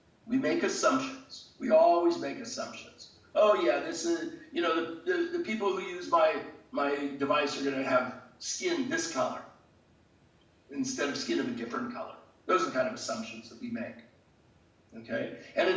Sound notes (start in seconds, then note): none